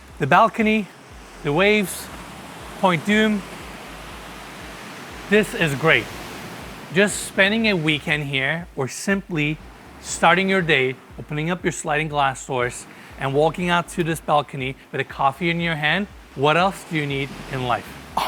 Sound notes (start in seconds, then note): 3.6 waves crashing